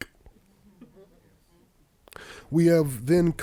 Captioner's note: audience laughing